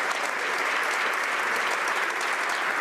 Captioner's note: some Applause